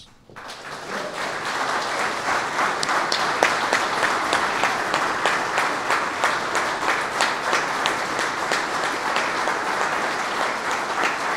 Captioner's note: applause